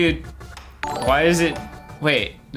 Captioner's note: SuperChat notification